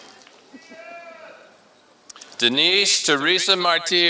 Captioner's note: applause